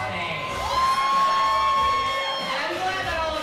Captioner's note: crowd cheering